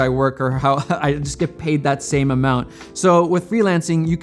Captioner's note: chuckles